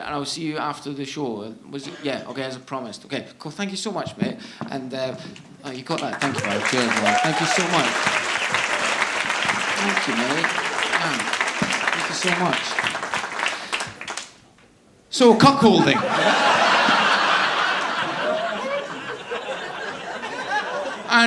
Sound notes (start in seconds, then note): 8.5 audience applauding; 15.5 audience laughing